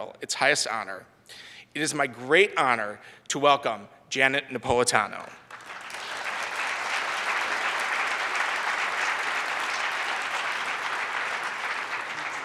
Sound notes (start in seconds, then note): 5.4 audience applauds